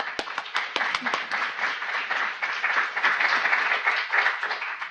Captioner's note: audience applauding